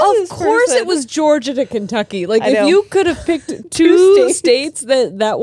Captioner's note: none